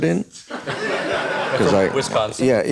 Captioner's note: laughter